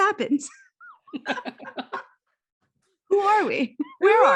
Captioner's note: both laughing